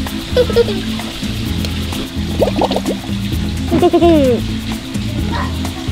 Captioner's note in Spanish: soplando burbujas; se ríe